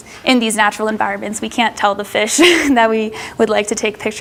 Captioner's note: laughs